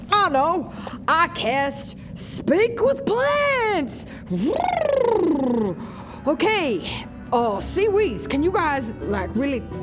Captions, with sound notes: I know! I cast Speak with Plants! *bubbles* Okay, uh sea weeds can you guys like really